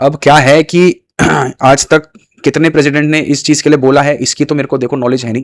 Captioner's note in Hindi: गला साफ़ करने की आवाज़